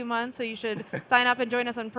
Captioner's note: chuckling